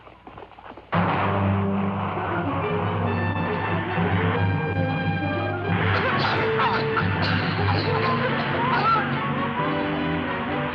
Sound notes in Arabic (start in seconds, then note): 0.9 إطلاق نار بالغاز المسيل للدموع; 2.6 موسيقى مهددة; 5.9 نساء يسعلن